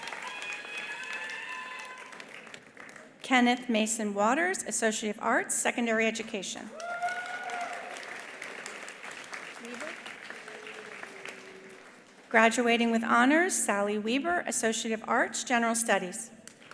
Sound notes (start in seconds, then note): 6.7 attendees cheering; 6.7 attendees applauding